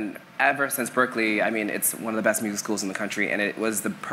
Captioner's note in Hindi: none